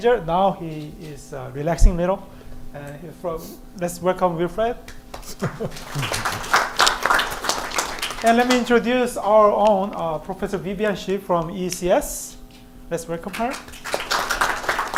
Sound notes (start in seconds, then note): 4.9 applause; 13.3 applause